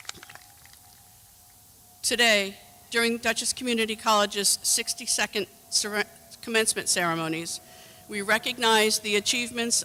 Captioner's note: applause